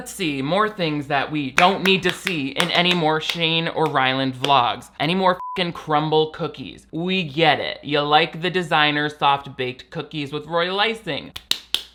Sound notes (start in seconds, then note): 5.4 beep